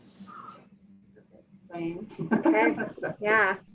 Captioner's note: man laughs